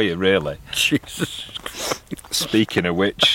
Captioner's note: whispers under his breath; sniffs